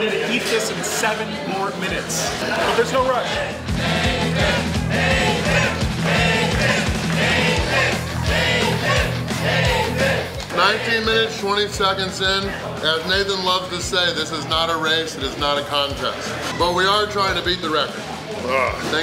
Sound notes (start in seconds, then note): 4.2 chanting